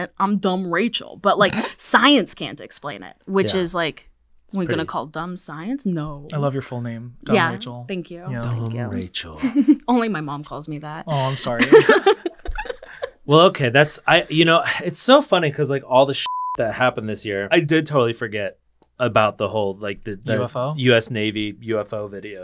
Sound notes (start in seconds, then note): 11.1 laughing; 16.2 beep